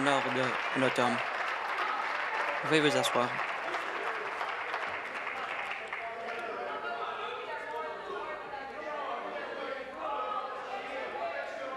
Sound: some Applause

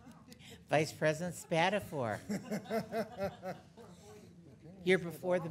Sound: board laughing

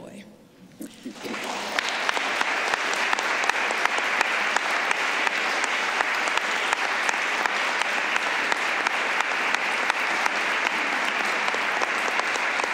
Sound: applause

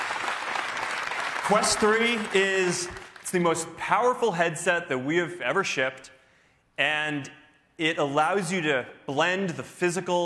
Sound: cheers and applause

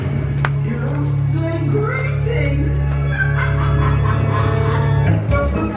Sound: cackling; upbeat spooky music

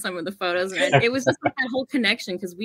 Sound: laughs

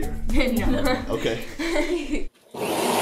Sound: laughs

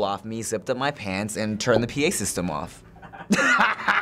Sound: Finebros laughs; laughing along

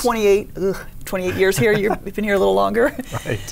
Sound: chuckles

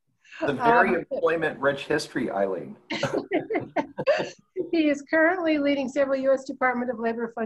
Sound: laughter

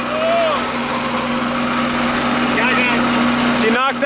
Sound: yelling

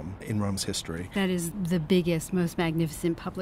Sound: voiceover

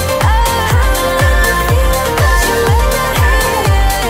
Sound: alarm beeping

